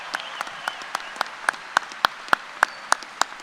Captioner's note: applause